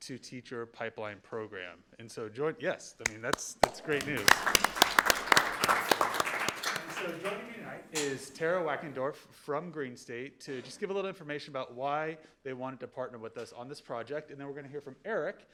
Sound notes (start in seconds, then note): 4.7 audience applauding; 7.8 speaking faintly